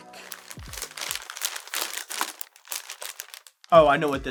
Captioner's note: paper crumpling